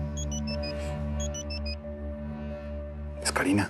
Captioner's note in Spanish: Suena el celular